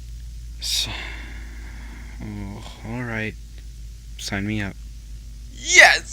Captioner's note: sigh